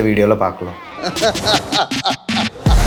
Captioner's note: laughter